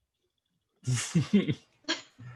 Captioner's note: laughs